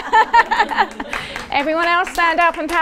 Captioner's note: audience laughing and clapping